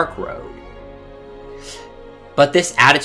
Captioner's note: inhale